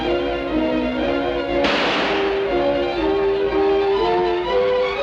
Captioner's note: gun fires